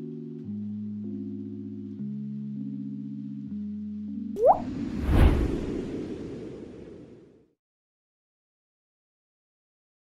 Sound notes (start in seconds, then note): 4.4 wind